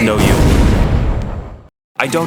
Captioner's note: explosion